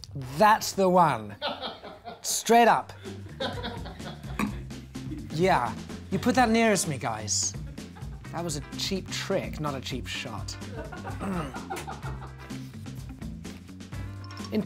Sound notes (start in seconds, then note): 1.4 laughing; 10.7 laughing; 11.2 groaning; 13.0 upbeat music; 14.4 ringing